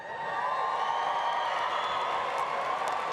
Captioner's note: applause